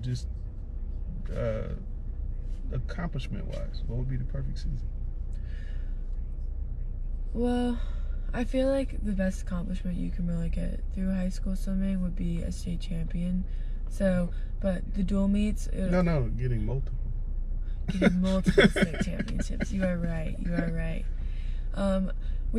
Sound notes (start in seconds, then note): 17.9 laugh